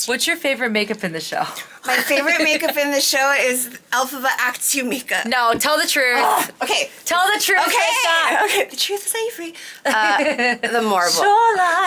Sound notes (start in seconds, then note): 6.4 grunts; 9.9 laughing